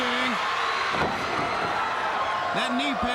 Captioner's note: Ric thudding on ring